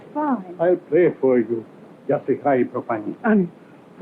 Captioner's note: speaking portuguese